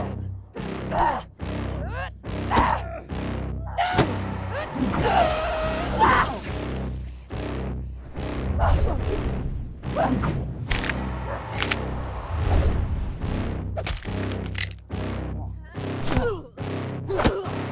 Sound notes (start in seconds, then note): 0.1 grunting; 0.1 smacking; 10.8 cracking; 17.1 grunting; 17.2 smacking